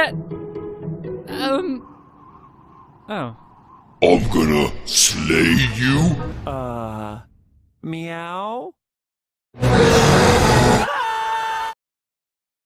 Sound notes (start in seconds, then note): 9.6 roar; 9.6 screaming